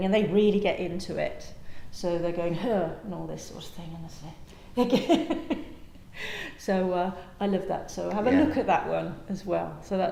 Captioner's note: laughter